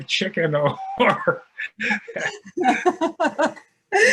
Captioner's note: laughing